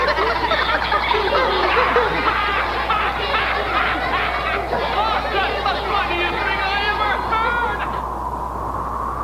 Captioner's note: laughs hysterically